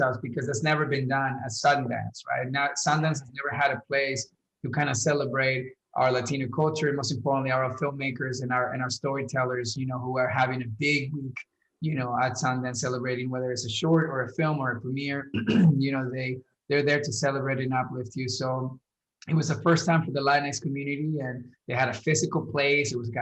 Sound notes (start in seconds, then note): 15.3 clears throat